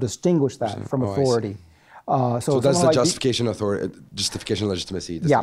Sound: voiceover

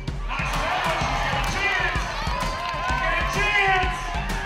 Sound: cheering

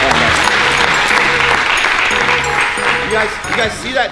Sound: people applauding; people clapping

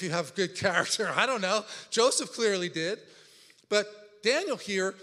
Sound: laughs

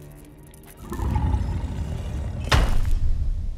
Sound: low snarling

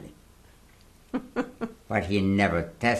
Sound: laughs

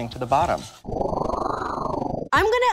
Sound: whooshing

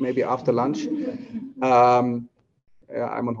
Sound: laughter

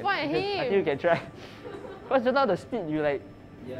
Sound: laughs

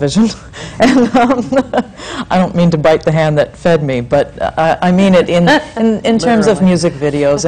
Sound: she laughs

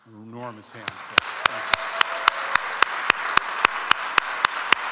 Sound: audience applauds

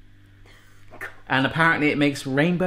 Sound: laughs

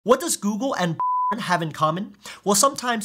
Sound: beeps

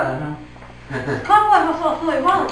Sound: laughs

